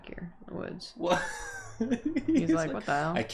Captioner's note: noise of disbelief followed by a chuckle